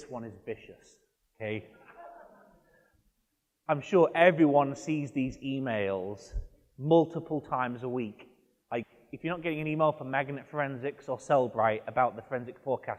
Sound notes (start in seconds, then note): 1.9 audience member laughs